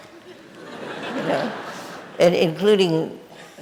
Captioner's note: audience laughing